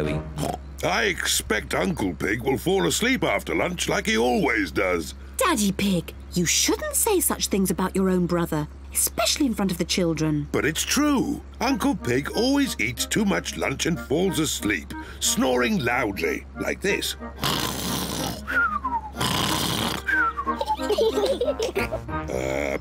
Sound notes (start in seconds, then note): 0.3 oinks; 17.2 snores loudly; 19.9 both giggle